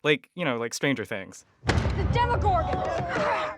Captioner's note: soundbite of tv show, "stranger things"